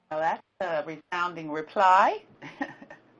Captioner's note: laughs